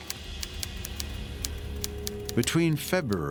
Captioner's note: typewriter clicking